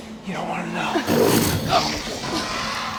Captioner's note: creature growls